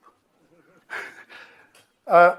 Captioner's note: laughs